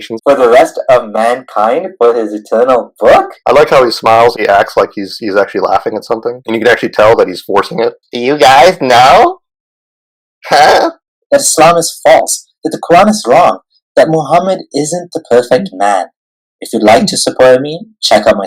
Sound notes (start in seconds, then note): 10.4 laugh